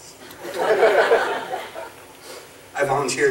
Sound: audience laughing

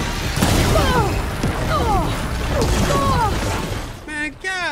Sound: Aloy grunting

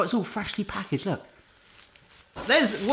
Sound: bristles rustling

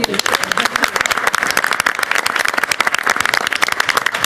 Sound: applause

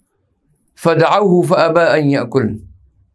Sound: arabic

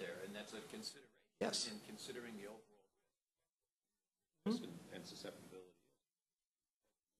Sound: pause

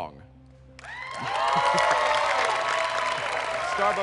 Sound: cheers and applause

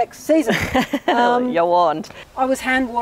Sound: laughs

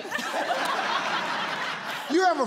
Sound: audience laughs

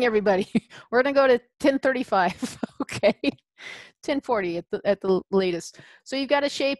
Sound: laughs

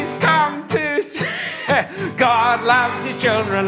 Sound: laughs

